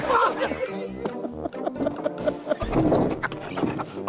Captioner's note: men laughing